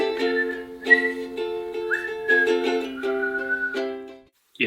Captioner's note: whistling fluxuates